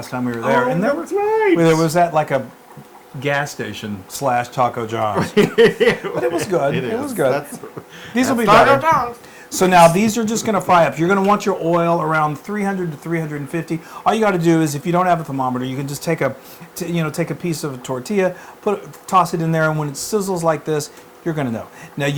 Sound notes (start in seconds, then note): 5.1 laugh